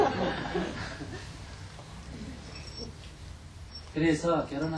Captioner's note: audience laughter